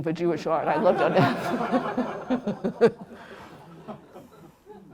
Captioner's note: laughter